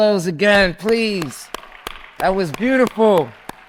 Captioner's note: claps; audience applauds and cheers